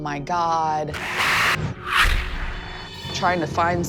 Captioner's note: whooshing sounds